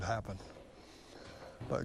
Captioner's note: nats of contruction